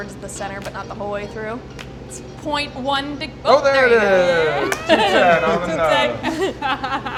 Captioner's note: high fives